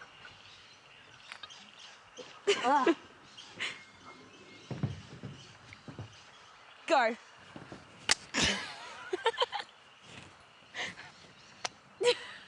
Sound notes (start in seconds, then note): 2.4 laughter; 8.3 laughter; 8.5 trigger clicks